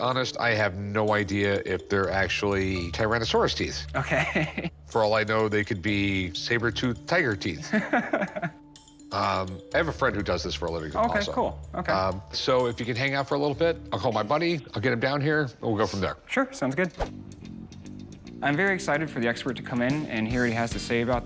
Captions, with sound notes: I have no idea if they're actually Tyrannosaurus teeth. - [chuckling] Okay. - For all I know, they could be saber tooth tiger teeth. - [laughs] - I have a friend who does this for a living. - Okay, cool. Okay. - If you can hang out for a little bit, I'll call my buddy, I'll get him down here, we'll go from there. - Sure, sounds good. I'm very excited for the expert to come in and hear what he has to say about the teeth.